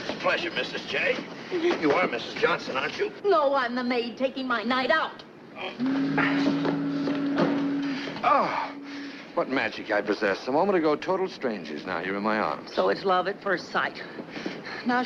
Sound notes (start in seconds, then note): 5.7 Dan groaning; 8.2 Eleanor groaning